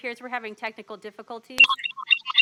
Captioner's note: audio feedback